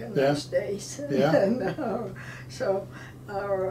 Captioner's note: laughing